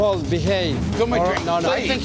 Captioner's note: arguing